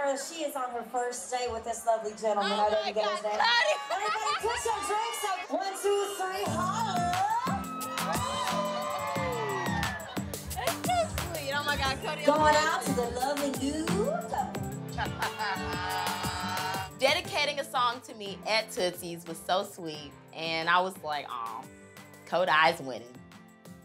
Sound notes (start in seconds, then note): 3.0 laughs; 7.4 crowd cheering; 13.8 crowd cheering